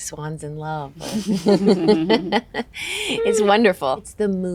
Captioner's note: all chuckle